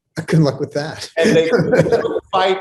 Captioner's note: laughs